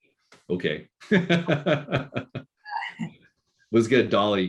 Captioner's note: laughing